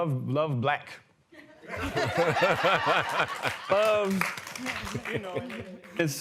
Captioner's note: laughter